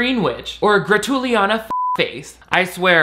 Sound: beep

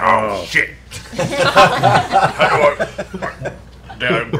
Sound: laughter

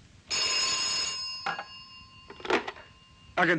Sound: phone ringing

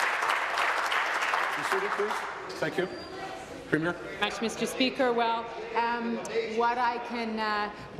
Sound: applause

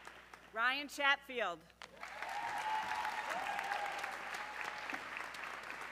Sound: audience cheering

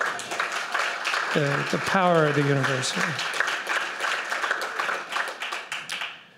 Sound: applause

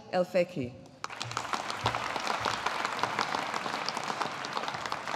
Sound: audience applauding

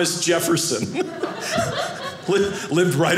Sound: audience laughing

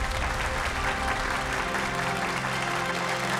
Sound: cheering

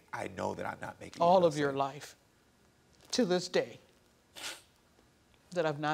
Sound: sniffles

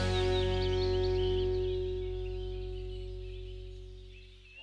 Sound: birds chirping

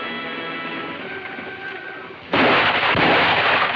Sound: gunshots firing

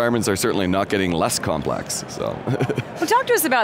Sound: laughs

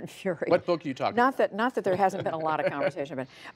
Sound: laughter

